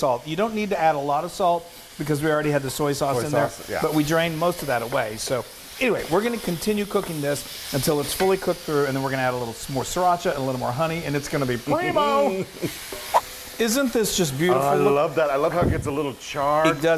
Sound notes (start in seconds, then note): 13.1 quick swipe